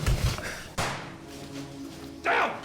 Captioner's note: gun bangs